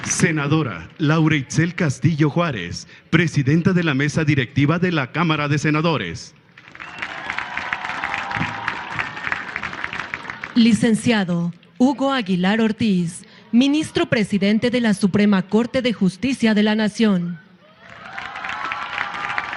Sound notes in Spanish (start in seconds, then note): 9.7 aplausos; 17.8 aplausos